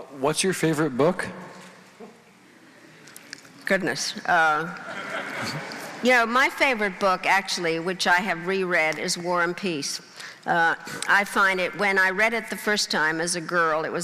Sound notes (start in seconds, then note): 4.8 crowd laughing